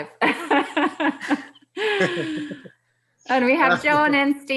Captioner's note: laughing